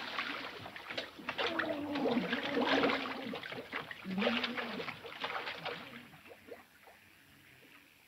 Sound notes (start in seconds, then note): 0.7 burbling